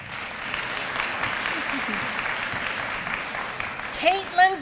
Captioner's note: applause